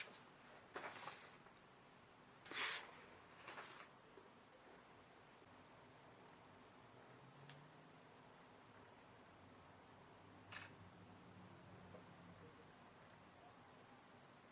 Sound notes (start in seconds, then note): 10.5 camera shutter